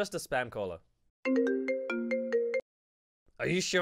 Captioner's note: phone ringing